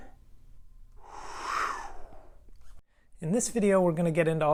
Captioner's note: wind blowing